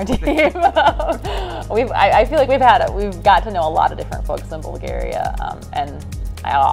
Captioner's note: laughter